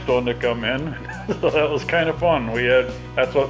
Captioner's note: chuckles